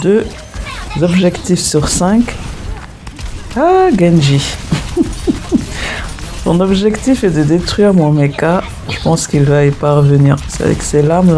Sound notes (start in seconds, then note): 4.4 laughs